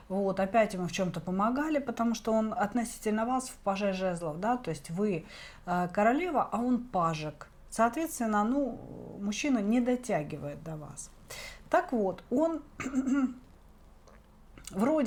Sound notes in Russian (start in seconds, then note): 12.8 откашливается